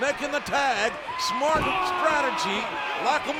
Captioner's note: blow thudding